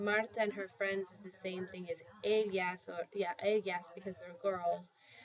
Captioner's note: spanish